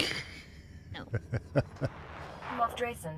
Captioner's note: laughter